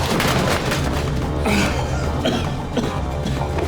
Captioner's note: groaning and coughing